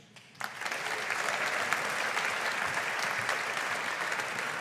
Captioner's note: audience applauding